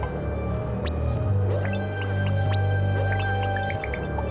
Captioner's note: popping